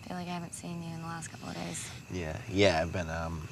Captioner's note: breathes in